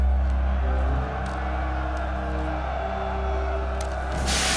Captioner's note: crowd cheering